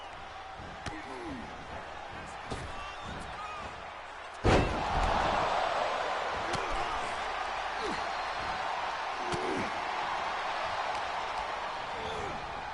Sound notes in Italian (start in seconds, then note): 3.2 Applauso